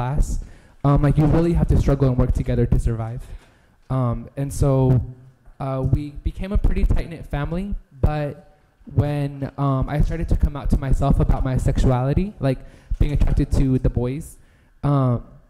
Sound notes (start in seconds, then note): none